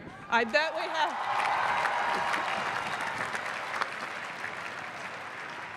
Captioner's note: cheering and clapping